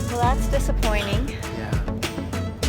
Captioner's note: sighs